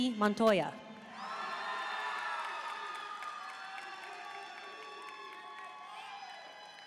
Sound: audience cheering and applauding

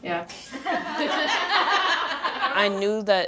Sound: all laughing

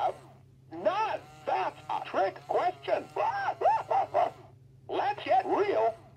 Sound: laughs

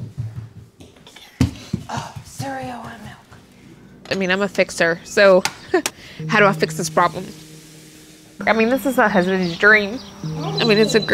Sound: buzzing

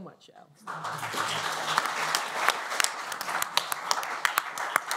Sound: applause

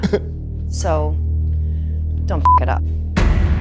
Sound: beeping

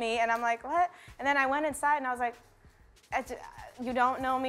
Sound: stammers

